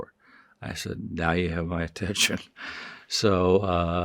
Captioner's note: chuckling